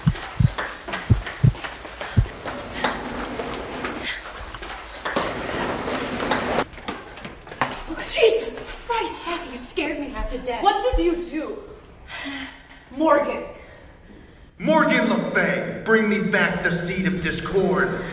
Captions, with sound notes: (rushed footsteps) Jesus Christ, Afie! You scared me half to death! What would you do? (oopsie sigh) Morgan Morgan Le Fay! Bring me back the Speed of Discord!